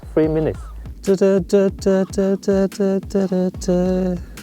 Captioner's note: humming